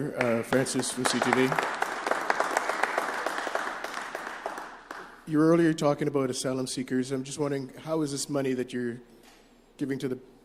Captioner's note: applause